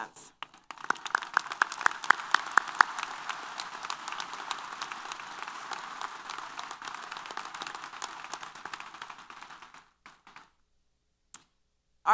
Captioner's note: applause